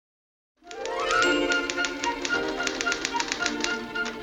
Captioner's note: typewriter key sound